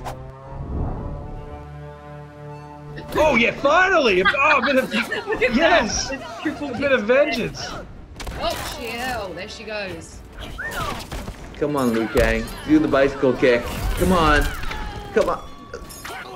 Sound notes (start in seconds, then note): 0.2 intense music; 10.8 whistles